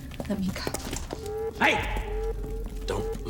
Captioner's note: alarm blaring